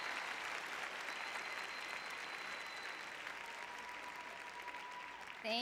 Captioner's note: applause